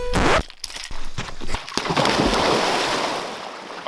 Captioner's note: record scratch; loud splash